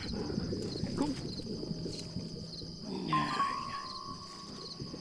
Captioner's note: eerie burbling